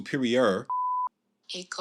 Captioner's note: beep